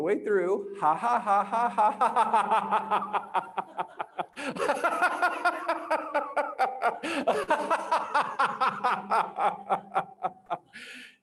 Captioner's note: laughs